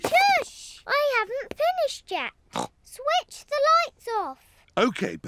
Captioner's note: snorts